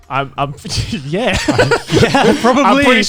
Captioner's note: laughs